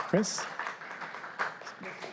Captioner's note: applause